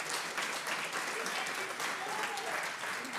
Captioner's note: audience applauds